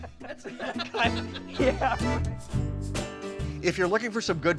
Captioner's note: laughing